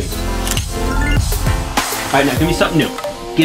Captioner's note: funky music; camera clicking